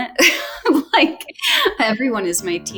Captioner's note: laughs